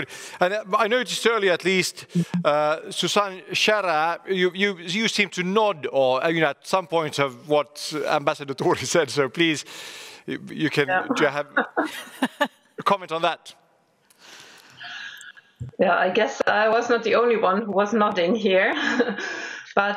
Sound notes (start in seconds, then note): 8.6 laughs; 11.9 laughing